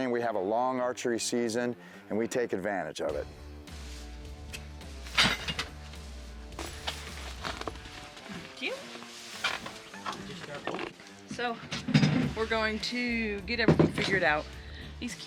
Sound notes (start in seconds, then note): 6.5 bag rattles on the ground